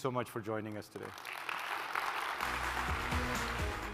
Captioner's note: applause